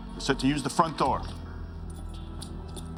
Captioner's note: none